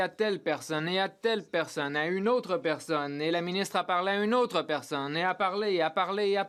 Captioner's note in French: voix de l'interprète